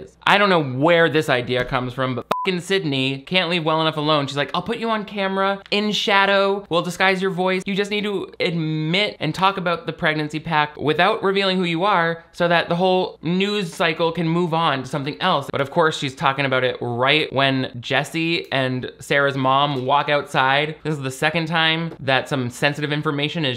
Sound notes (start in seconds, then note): 2.2 beep